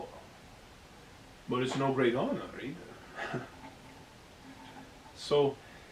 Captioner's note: laugher